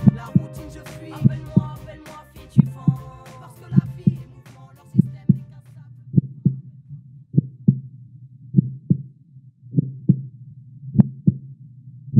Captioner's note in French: battements de cœur